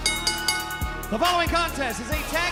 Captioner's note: bell